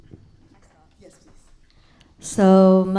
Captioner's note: speaks faintly